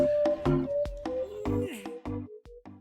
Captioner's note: more grunting